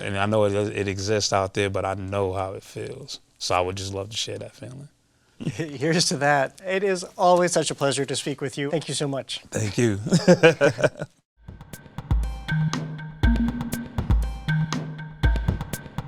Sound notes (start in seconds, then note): 5.4 chuckling; 9.6 laughs